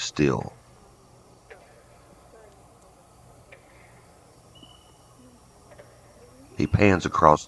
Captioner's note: katydids forest sounds